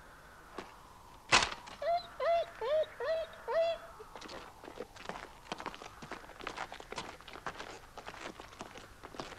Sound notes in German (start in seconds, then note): 5.1 Dojan winselt